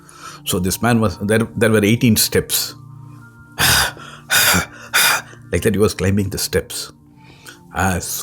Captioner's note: panting sound